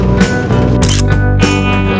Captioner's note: photo click